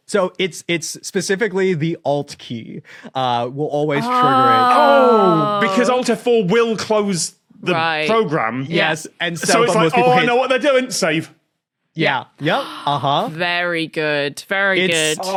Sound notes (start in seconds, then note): 12.1 gasps